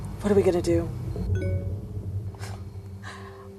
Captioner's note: notification sounds; scoffs